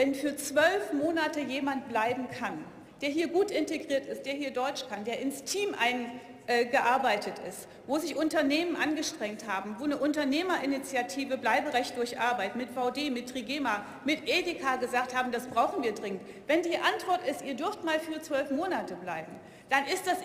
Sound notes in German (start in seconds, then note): none